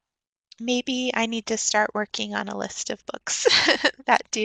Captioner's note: chuckles